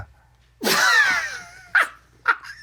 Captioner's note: laughs